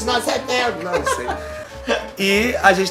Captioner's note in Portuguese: risos